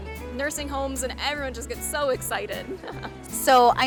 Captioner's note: laughing